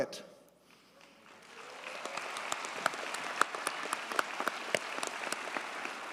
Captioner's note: audience cheers and applauds